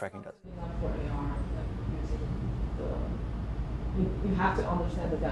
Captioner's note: audience member murmurs